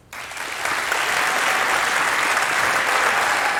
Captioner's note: applause